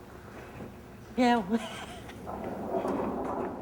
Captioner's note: laughing